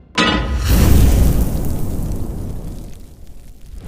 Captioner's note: clangs; sizzles